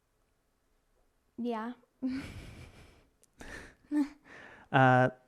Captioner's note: chuckles